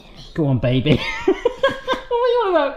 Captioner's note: laughs